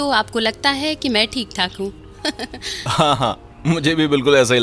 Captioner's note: chuckling